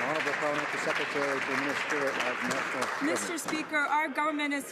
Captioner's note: some Applause